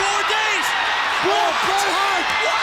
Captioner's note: crowd cheering